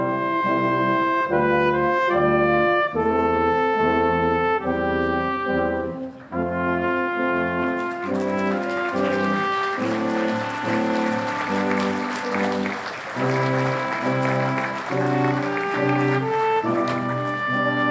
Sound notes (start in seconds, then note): 10.3 audience applauding